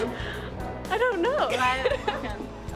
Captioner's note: laughs; laughs